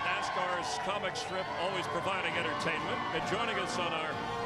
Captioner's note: applause